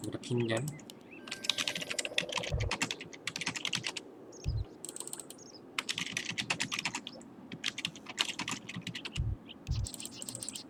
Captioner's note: typing sounds